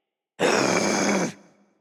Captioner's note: growl